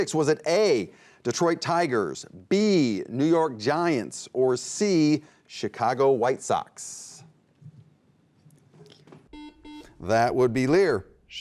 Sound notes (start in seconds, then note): 9.3 beeping